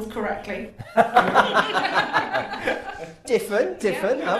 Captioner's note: laughter